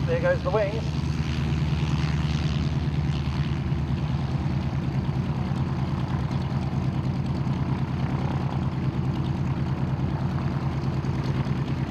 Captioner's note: aircraft sounds